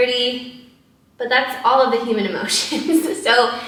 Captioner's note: laughs